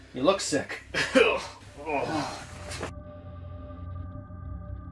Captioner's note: Brett coughing; ominous music